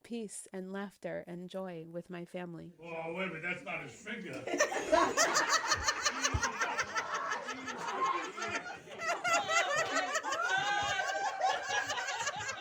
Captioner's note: cue lots of laughter